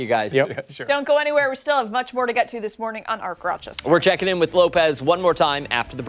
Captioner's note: laughter